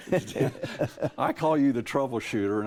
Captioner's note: chuckle